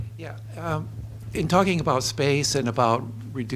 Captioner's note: voiceover